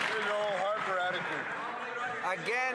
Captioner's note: some Applause